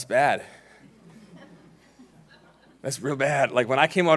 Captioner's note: laughing